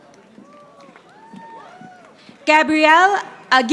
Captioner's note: audience applauding